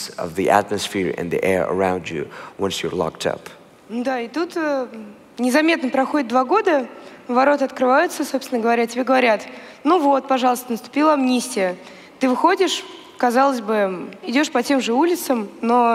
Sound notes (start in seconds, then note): 3.9 foreign Language